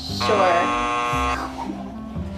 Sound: buzzer buzzing

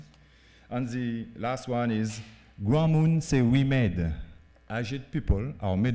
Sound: speaking french

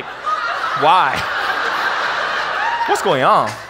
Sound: audience laughs

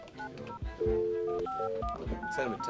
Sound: phone dialing

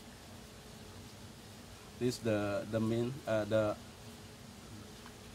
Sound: chef speaking

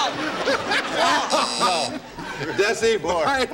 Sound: buzzer

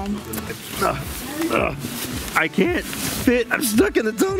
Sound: grunts

